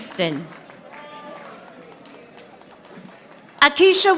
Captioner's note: audience applauding